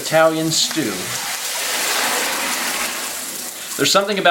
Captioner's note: pours water in the sink while faucet is running